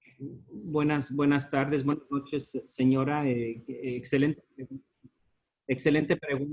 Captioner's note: in Spanish